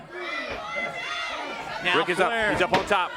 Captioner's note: crowd chatter